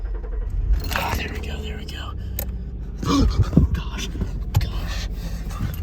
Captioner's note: gasp